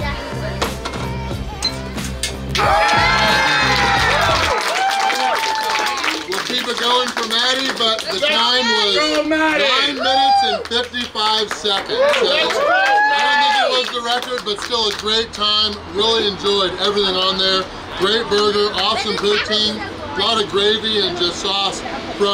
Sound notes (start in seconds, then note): 3.5 cheering and applauding; 12.1 cheering and applauding